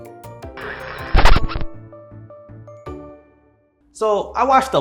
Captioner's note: radio noise plays